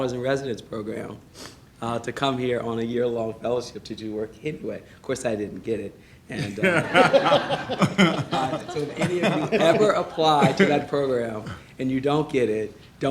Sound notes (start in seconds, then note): 6.4 laughing